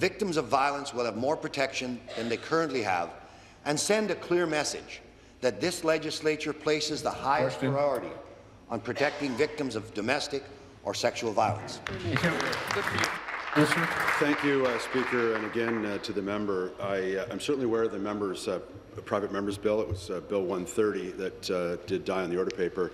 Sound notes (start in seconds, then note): 16.2 applause